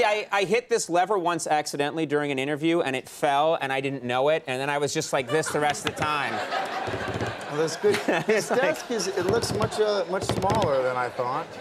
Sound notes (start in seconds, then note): 5.2 audience laughs; 7.5 Conan laughs